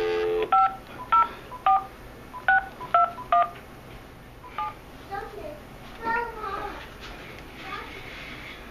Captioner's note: dialing noises